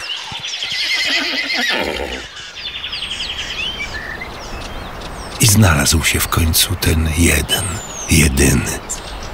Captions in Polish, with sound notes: [śpiew ptaków i odgłosy dzikich zwierząt w tle] [szum] I znalazł się w końcu ten jeden jedyny,